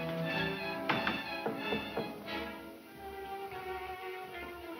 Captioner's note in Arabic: طرق على الباب